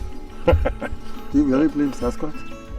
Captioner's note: chuckling